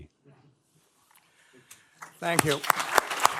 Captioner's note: applause